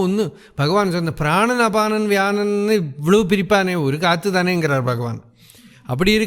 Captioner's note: breath